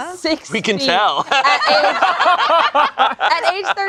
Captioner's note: everyone laughing